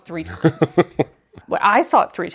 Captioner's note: laughing